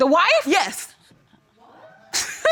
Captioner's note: laughs